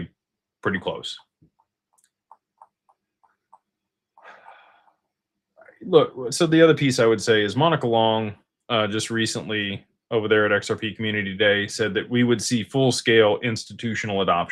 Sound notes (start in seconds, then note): none